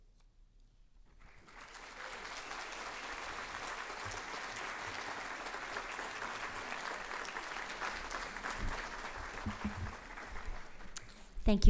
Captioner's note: applause